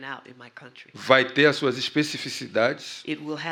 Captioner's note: speaking portuguese